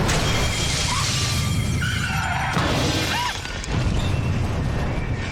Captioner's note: tires screech; alarm blaring